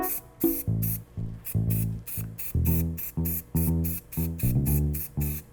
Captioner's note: can rattles; dreamy harp strum; paint hisses softly